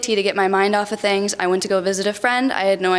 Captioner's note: none